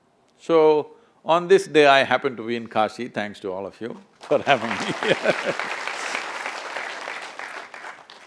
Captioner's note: laughs; applause